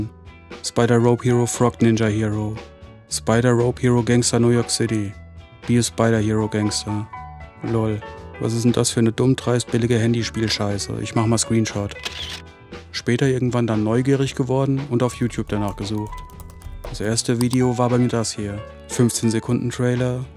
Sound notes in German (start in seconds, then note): 7.0 Unbeschwerte Musik; 12.0 Fotoklicken